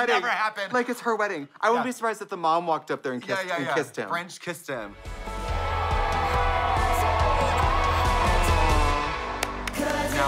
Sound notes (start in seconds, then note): 5.2 audience cheering; 9.2 claps